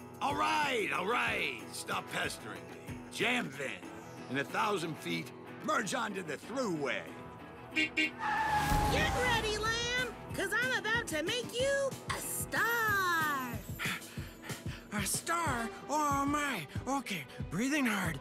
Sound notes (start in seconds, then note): 7.7 honking; 7.7 tires screeching; 13.8 panting